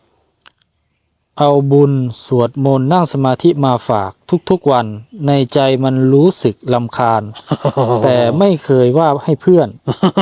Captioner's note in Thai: เสียงหัวเราะ